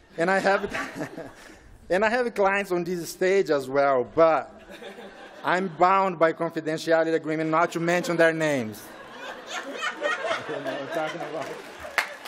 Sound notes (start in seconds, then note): 10.2 laughing